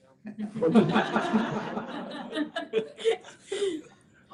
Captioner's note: laughter